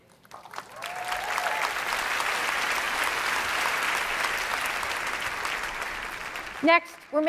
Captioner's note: applause